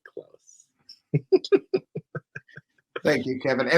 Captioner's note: laughs